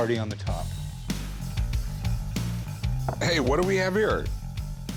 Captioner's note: sighs